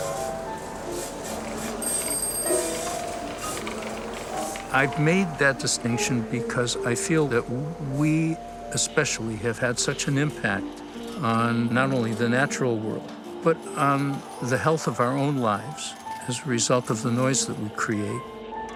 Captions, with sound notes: [bell ringing] I've made that distinction because I feel that we especially have had such an impact on not only the natural world, but on the health of our own lives as a result of the noise that we create.